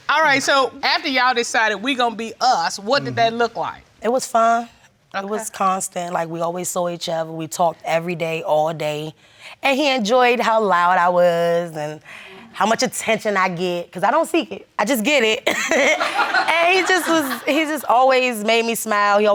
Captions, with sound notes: All right, so, after you all decided "We're gonna be us," what did that look like? It was fun and it was constant. Like, we always saw each other, we talked every day, all day. And he enjoyed how loud I was and how much attention I get. 'Cause I don't seek it, I just get it. (LAUGHS) And he just always made me smile,